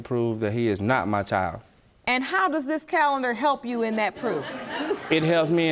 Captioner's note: audience laughing